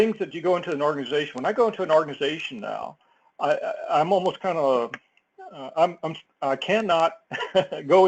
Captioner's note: laugh